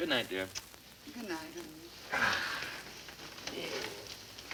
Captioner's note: paper crackles